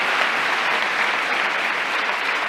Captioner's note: applause